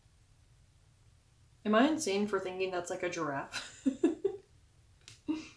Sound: laughs

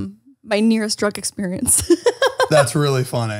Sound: she laughs

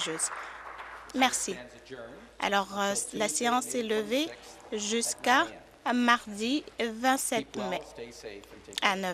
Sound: applause

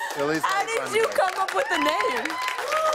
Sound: cheers and applause

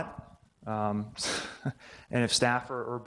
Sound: chuckles

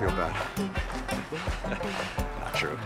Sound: laughing

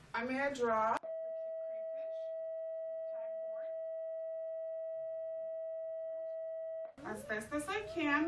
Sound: audio feedback

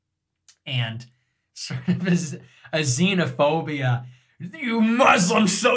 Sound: laugh

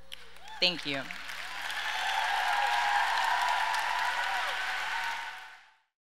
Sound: audience cheers and applauds

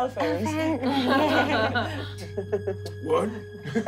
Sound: laughing

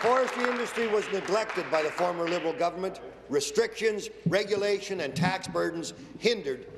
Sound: applause

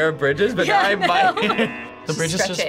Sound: laughs; buzzer rings

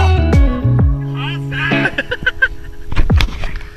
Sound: laughter

